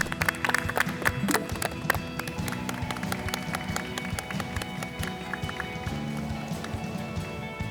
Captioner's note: the producers shower them with applause